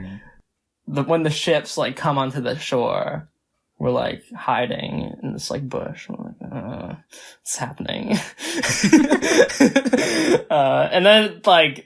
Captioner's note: both laugh